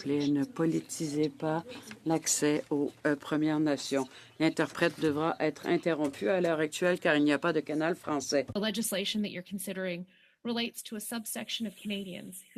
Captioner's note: speaking French